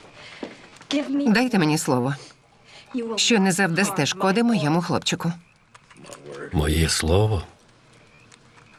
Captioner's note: chuckling